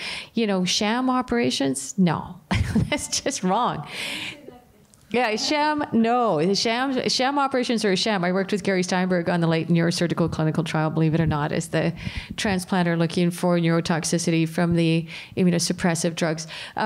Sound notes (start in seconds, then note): 2.5 laughter